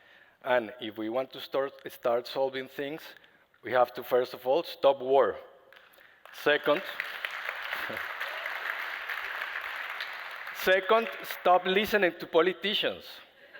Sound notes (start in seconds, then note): 6.2 applause